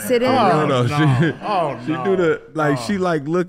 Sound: groaning

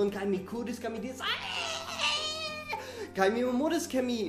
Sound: pitiable childlike wail

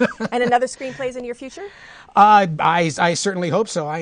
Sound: laughter

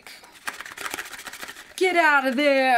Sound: box rattling

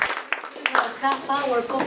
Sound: applause

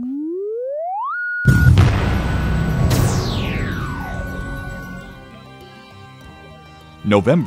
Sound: sound Effects

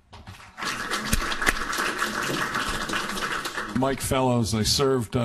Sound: applauding

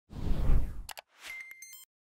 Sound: logo whooshes; mouse clicks; bell tinkling

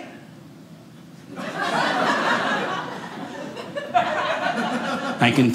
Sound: audience laughing

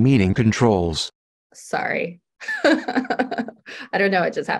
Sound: laughs

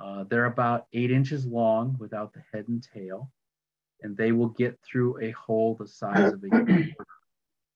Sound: clearing throat

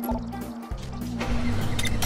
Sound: technological sound; mechanical noise; machine noise

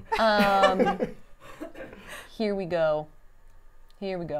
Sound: laughs

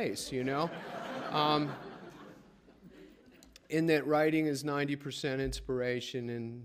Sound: laughter

